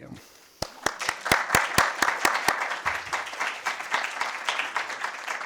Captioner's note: audience applause